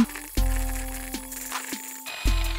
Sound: soft melodic music; whisk whirring

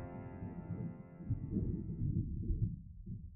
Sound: thunder

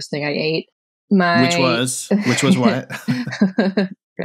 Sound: laughter

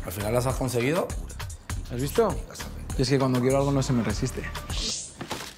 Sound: none

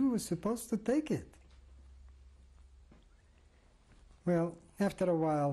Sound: pauses for 3 seconds

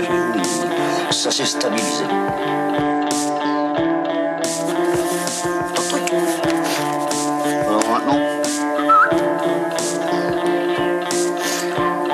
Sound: whistling

